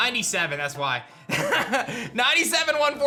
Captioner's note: laughs